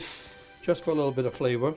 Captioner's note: sizzling